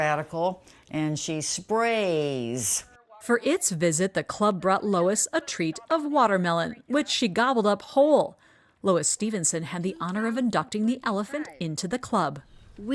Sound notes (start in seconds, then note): 3.9 voice-over